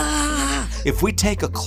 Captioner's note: squeaking